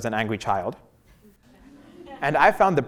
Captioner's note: laugh